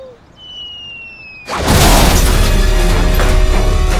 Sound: whistling; dramatic music

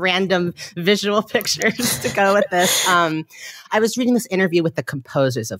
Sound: laughing

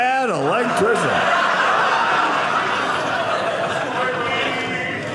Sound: audience laughing

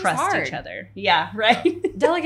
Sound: laughs

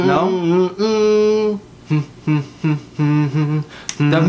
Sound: more humming

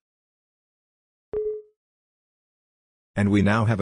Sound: Windows 7 UAC sound

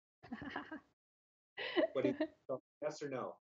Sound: chuckling

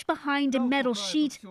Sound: speaking Foreign Language

